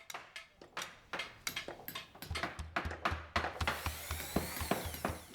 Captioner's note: construction noises